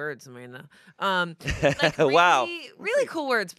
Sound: laughs

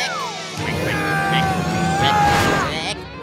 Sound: grunting

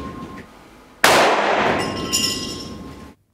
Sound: explosion sound

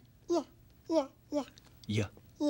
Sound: making "y" sound; makes "y" sound

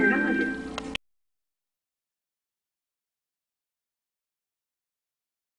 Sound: silence

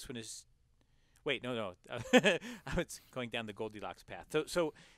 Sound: laugh

